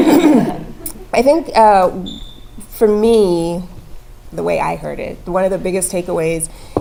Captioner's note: laugh